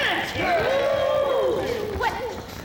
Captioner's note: women ooh